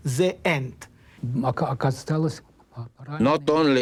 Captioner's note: speaking russian